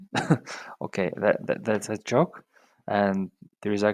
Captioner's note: chuckles